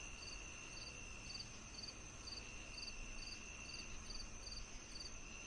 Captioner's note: crickets chirping